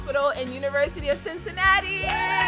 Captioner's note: cheering